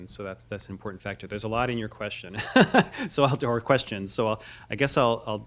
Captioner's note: chuckle